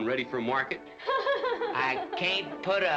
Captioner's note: ellen chuckles